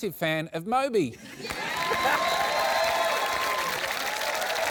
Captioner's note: cheering and applause